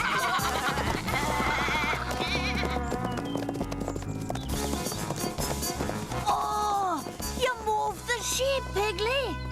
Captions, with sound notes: [GRUNTS] OH! YOU MOVED THE SHEEP, PIGGLEY.